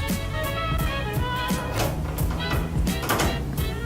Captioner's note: lock being turned